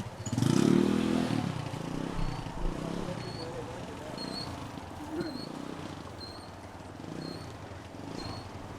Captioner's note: Vrombissement d'une moto